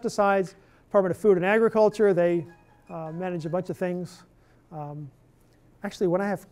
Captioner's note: cell phone ringing